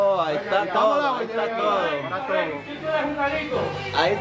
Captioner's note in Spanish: gente hablando